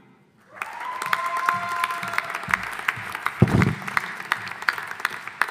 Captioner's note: audience applauding